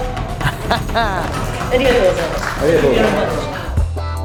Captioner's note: taunting